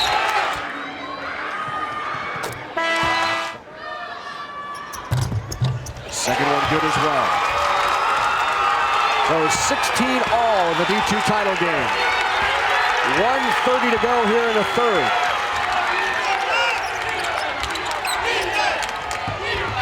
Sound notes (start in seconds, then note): 2.6 horn blares; 8.0 crowd cheers